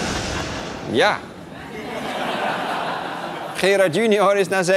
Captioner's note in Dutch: gelach